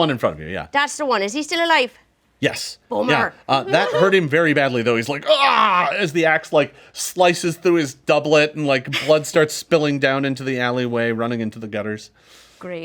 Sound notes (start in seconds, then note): 5.0 groans